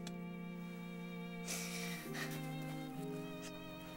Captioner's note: sobbing